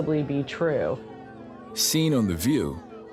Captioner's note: muffled shouting